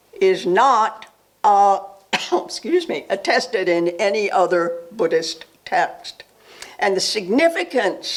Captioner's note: coughs